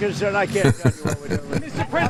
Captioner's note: laughs